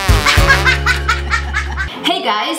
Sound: upbeat music; laughing

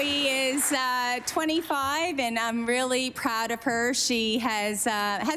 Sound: applause

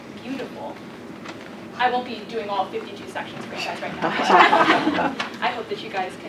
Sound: laugh

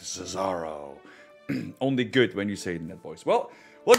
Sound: cough

